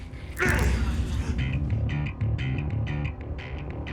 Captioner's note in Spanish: Exclamaciones